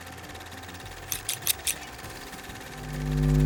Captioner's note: film camera rolling; scissor snipping